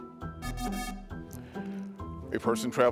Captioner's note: pensive music continues; buzzer buzzes